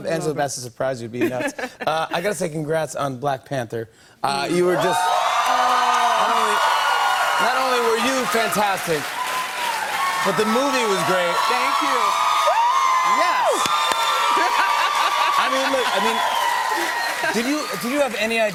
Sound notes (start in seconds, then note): 5.5 cheers and applause